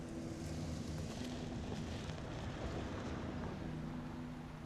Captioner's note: gravel crunching